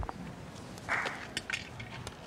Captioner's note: gavel bang